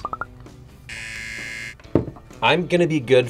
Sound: buzzer

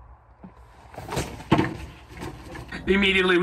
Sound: crash

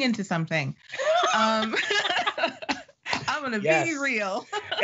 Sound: laughing

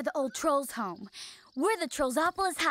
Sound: none

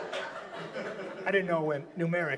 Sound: audience laughs

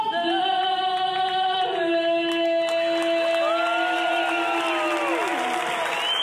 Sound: applause and cheering

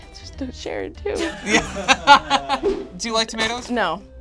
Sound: group laughs

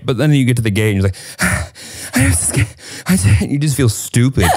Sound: heavily breathing

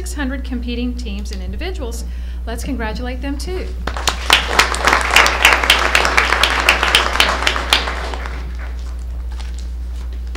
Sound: applause

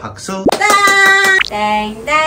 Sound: clapping👏

